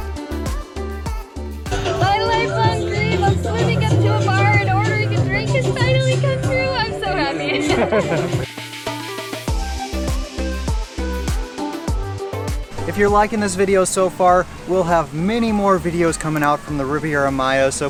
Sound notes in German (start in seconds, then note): 7.1 Lacht